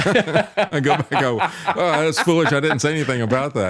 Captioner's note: laughing